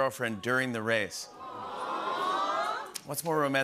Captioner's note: audience "Awws"